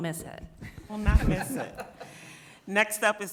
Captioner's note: people laughing